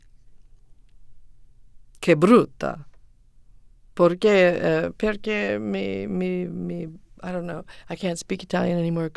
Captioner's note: foreign language spoken